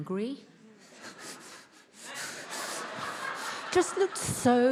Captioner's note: attendees laughs